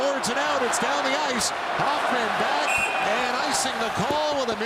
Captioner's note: cheering; applause